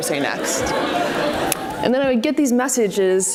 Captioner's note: audience laughs